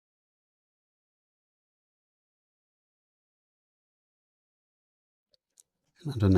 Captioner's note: silence